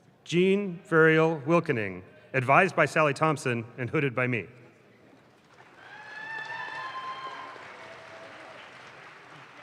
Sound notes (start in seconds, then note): 5.2 audience claps